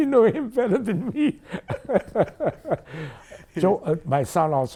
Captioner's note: laughing